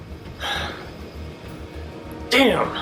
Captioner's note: sighing